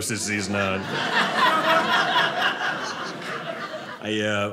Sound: audience laughing

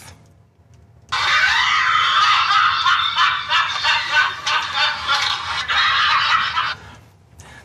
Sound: laughter

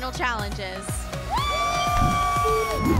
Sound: cheering

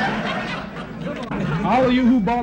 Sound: crowd laughs

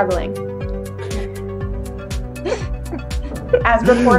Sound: chuckles

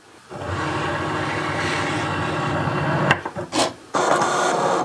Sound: machine whirring

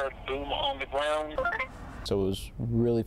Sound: radio bleep

